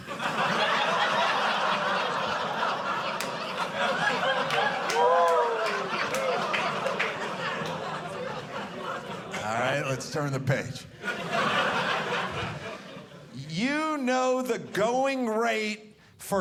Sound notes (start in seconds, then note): 0.0 audience laughing